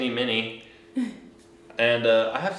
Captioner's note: chuckles